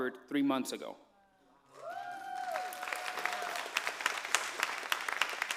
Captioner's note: cheers, applause